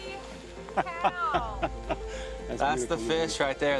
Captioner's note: laughing